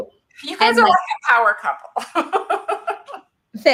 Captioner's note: laughs